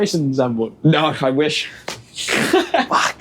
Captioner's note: laughter